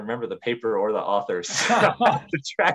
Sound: laughs

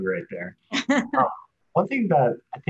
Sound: giggling

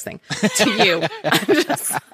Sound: laughing

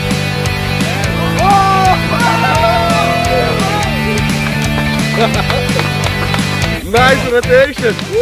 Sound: rock music; laughter

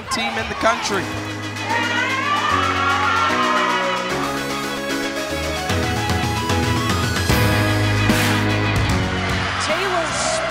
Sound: crowd/music

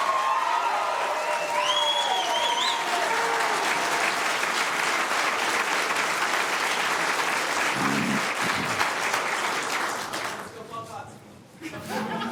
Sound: applause

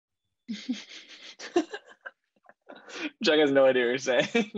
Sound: laughing lightly

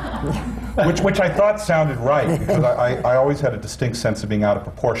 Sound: laughter

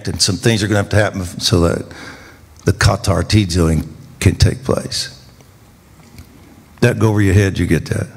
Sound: speaking in foreign language

